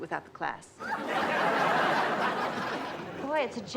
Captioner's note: audience laughs